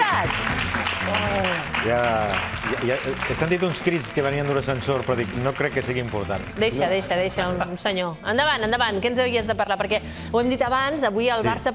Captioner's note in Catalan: aplaudiments